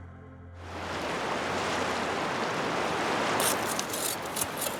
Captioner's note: water rushing